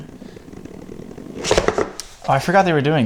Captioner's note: box slides open